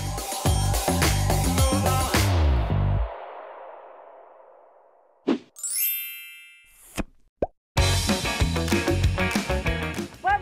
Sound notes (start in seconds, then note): 0.0 upbeat music; 5.6 chiming; 7.8 upbeat music